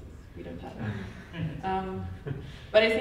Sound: audio blurs

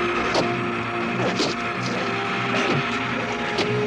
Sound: hitting; hitting

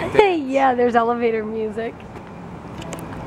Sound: laughs

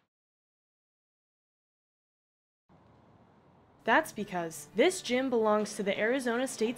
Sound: silence

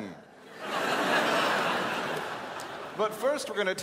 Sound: crowd laughs

